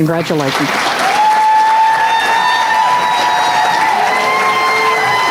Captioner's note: applause